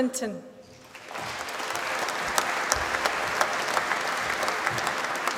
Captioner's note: applause